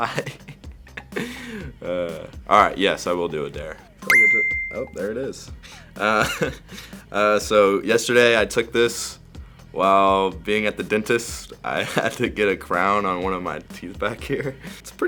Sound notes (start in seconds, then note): 0.0 laughing; 6.0 laughing